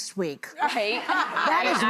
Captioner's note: audience laughing